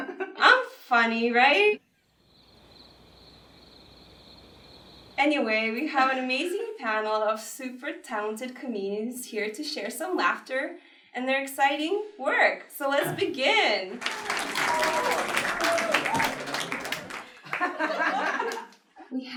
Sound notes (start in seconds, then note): 2.1 crickets chirping; 13.9 applause; 16.4 laughter